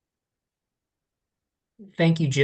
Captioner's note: pause